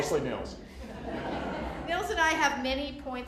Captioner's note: laughter